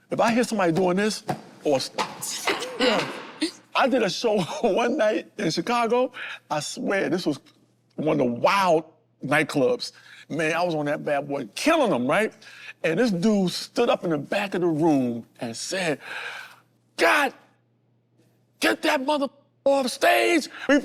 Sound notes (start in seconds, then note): 0.7 knocking; 1.7 banging